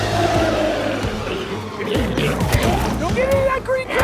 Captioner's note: glowzies growling; intense music